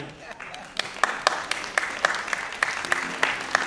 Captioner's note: applause; audience laughing; piano music